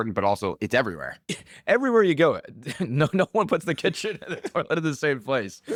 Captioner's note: laughs